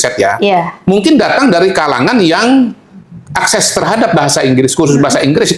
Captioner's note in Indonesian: tertawa